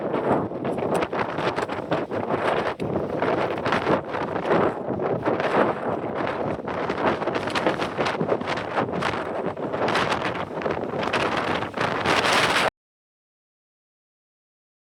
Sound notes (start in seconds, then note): 7.1 wind Blowing